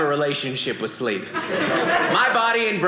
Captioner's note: audience laughing